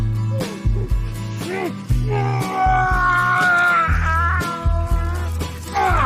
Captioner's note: groans of effort